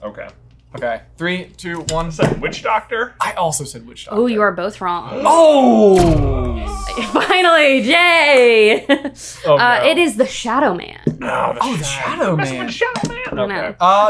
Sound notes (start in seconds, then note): 5.9 heavy boom; 6.6 chuckles